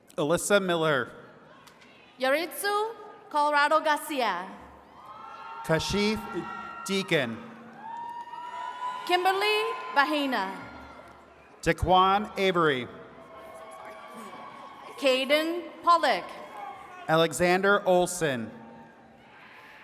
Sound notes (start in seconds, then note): 7.9 attendees cheering; 13.0 attendees cheering